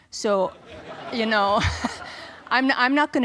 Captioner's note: audience laughs